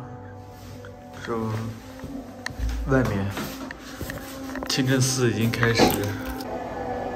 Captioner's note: chanting